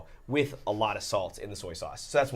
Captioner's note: none